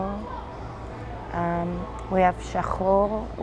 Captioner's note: hebrew